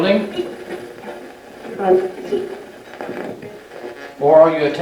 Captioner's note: radio channel changing